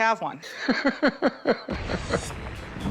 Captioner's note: laughs